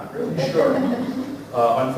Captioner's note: laughter